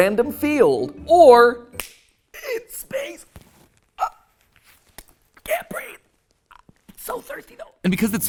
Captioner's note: snap